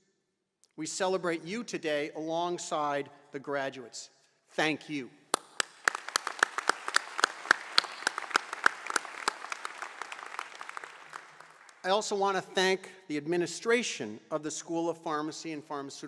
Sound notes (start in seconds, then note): 3.5 applause